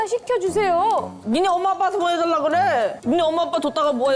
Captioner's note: exasperated